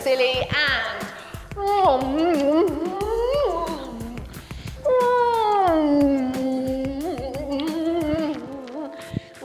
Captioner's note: hums and pretends to chew toffee, loudly vocalising it